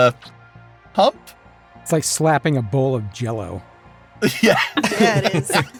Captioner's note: laughs